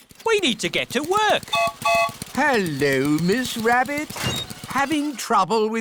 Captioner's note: gertrude's whistle blows